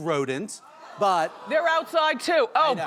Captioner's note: audience oohs and ahhs